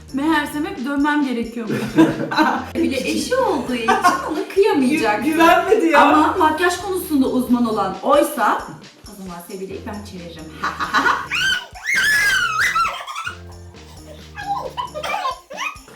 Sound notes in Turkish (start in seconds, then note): 10.6 Kötü Gülüş :D